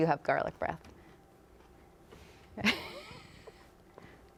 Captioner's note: laughs